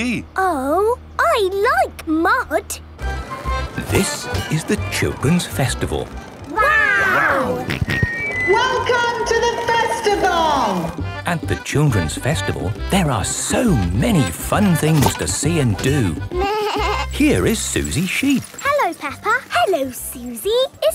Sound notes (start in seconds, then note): 7.7 on microphone; 9.9 jolly folk music